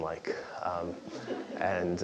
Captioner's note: laugh